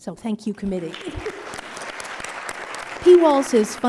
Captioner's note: applause